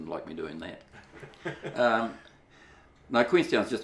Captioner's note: laughs